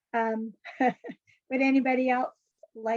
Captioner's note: laughs